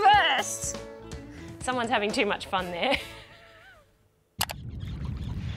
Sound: laughs

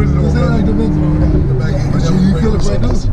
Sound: murmurs

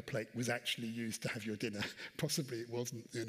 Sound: chuckles

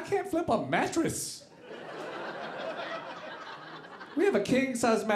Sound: audience laughing

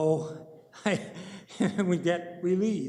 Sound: chuckles

